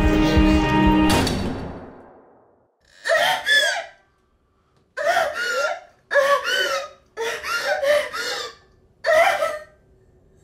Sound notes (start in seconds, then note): 3.0 intense sobbing